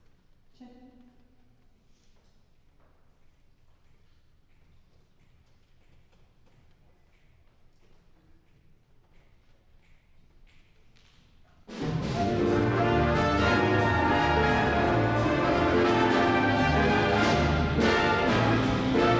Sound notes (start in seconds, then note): 10.3 snapping rhythmically